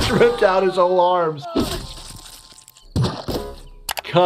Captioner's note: laughs; Disco Bear yelling